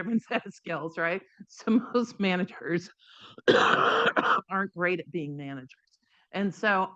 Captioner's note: coughs